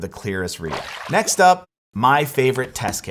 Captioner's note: water splashes